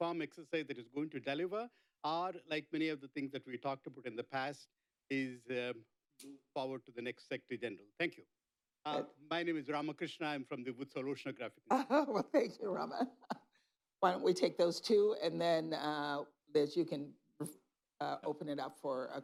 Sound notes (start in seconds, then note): 5.4 off mic; 13.6 laughs